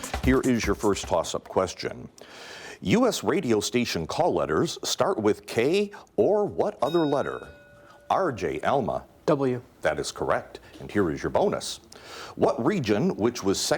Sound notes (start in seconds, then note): 6.8 bell dings